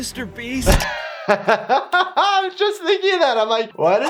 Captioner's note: laughs